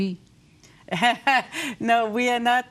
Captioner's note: chuckles